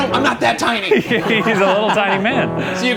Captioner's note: everyone laughs